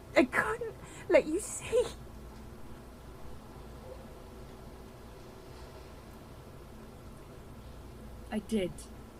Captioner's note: a silence